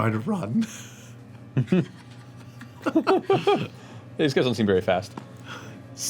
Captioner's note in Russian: смеётся